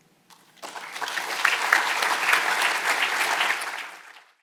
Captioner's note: audience applauds